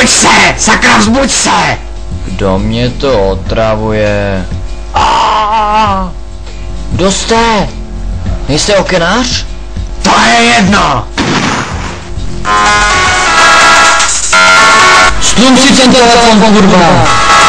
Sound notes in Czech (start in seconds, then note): 11.1 Výstřel